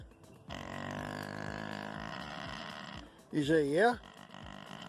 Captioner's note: micro pig snorting